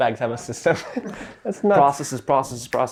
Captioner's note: both laugh